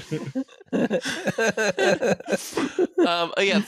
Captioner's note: laughter